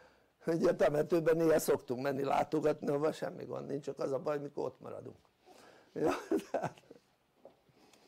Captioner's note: laughter